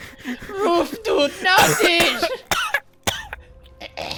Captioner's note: coughing